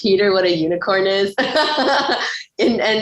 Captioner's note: laughs